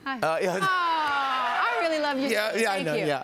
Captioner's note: laughter and cheers